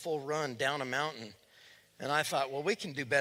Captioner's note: none